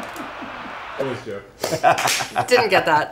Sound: laughs; crowd cheers; laughs

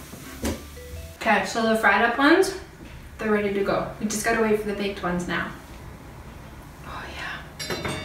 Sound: inhales

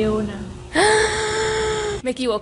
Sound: gasp

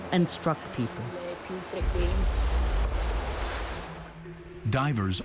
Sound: water crashing

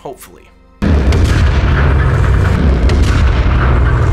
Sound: explosive booming

